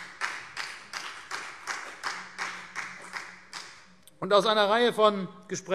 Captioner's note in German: Beifall CDU und BÜNDNIS 90/DIE GRÜNEN